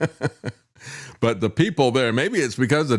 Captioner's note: laughs